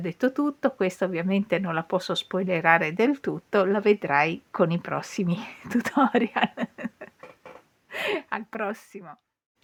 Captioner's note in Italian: risate